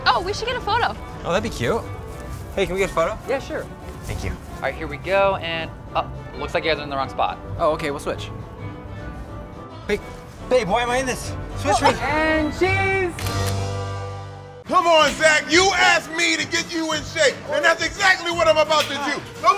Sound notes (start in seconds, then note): 0.1 country music; 13.1 camera shutters